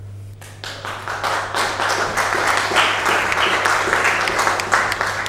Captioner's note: applause